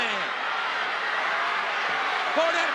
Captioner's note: audience cheers